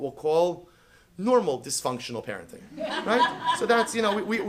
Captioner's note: laughter